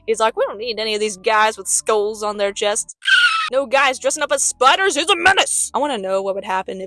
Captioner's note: squeak